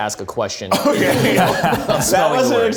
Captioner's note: group laughs